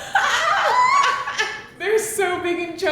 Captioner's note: shrieks